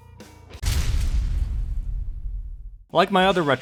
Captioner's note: thud sound effect